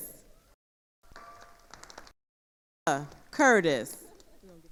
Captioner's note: attendees applauding